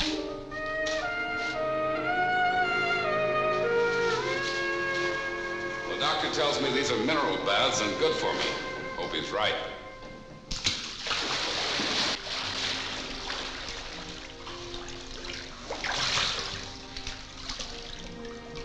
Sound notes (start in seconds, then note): 0.1 saucy music; 10.5 splashing